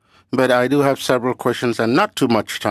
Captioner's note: speaking French